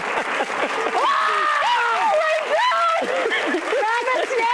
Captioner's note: audience applauds; screams